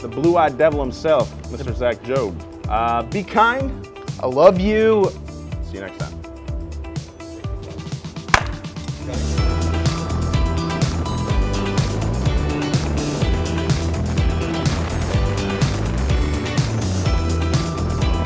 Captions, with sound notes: - The blue-eyed devil himself, Mr Zach Jobe. Be kind. - I love you. - See you next time. (claps) (relaxed music)